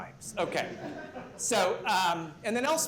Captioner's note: laughter